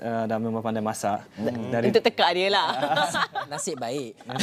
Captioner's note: laugh